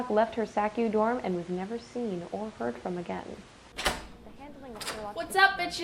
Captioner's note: door opening